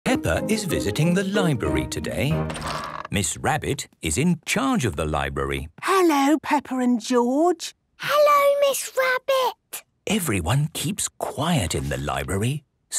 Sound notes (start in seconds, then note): 5.8 whispering